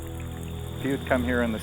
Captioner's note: water bubbling